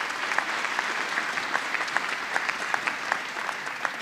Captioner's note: applause